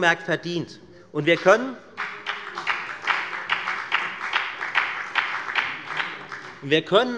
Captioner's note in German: Beifall bei der FDP